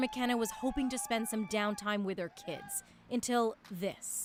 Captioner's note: cheers and Applause